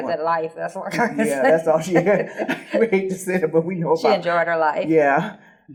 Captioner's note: laughing